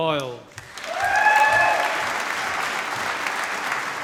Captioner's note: applause